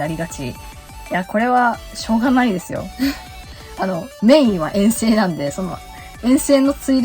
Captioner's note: laughs